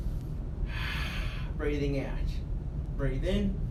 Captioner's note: exhales